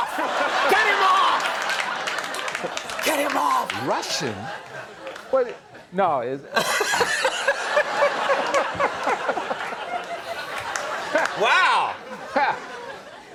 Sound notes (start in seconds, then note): 4.7 audience laughter